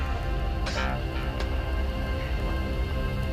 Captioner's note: coughs